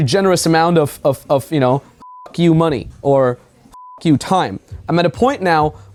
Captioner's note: beep